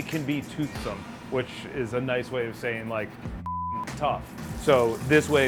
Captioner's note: beep